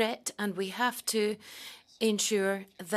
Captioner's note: speaking French